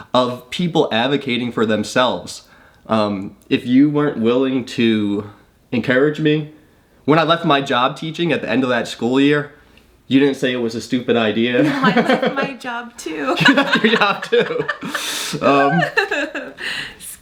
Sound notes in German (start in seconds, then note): 13.3 lacht